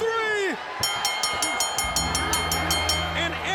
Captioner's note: bell ringing